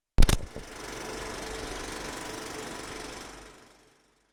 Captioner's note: film reel clacking